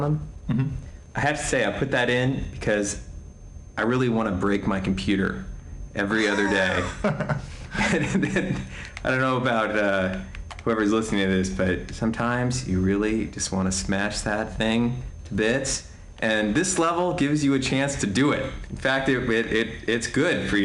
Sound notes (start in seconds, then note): 7.9 haha